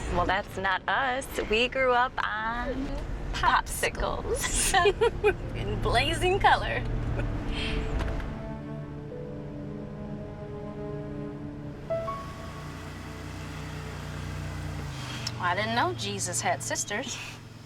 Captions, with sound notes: Well that's not us. We grew up on... Popsicles. (laughter) In blazing color. (laughter) (serious music begins) I didn't know Jesus had sisters.